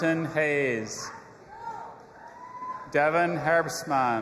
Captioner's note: audience applauding and cheering